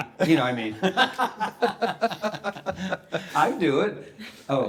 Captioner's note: everyone laughing